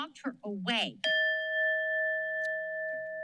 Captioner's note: bell rings